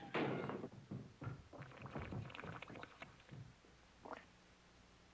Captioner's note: bubbling